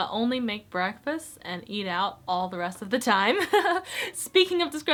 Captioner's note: chuckles